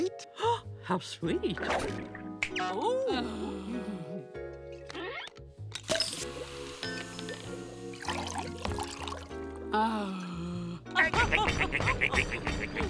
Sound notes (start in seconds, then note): 0.1 gasping; 2.9 sighing; 9.3 groaning; 11.0 laughing